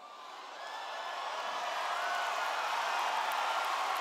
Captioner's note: cheers